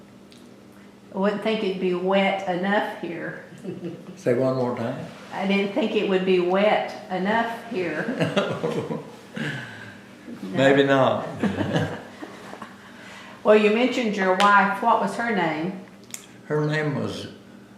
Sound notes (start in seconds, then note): 7.8 laughs; 7.9 laughter